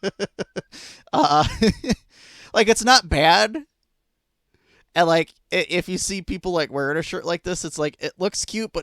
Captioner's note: laughing